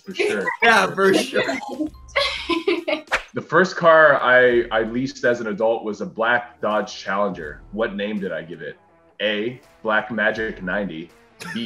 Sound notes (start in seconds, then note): 1.8 laughing